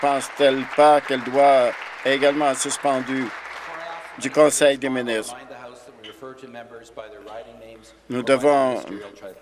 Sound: applause

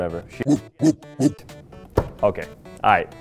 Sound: video game dog barks; thumps desk

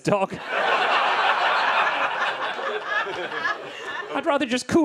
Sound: audience laughing

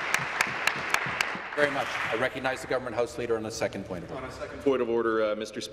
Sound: applause

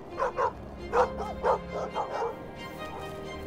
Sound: woof woof woof

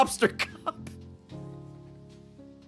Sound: laughs

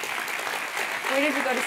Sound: applause

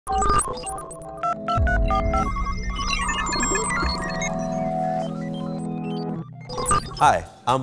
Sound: computer read-out & telephone dialing

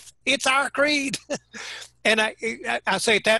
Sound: laughing

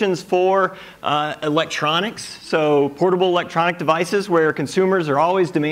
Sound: none

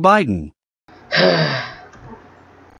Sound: sigh

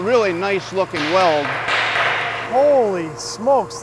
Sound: pipes banging

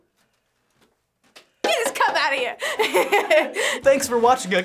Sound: laughs

